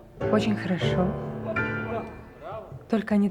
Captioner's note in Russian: музыка занчивается, раздается смех